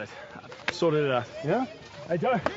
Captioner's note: slaps